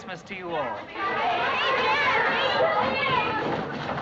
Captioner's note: all chattering excitedly